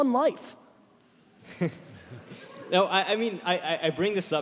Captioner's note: laughing